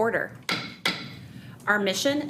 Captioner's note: gavel tapping